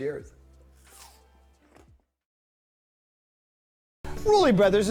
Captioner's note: apple crunching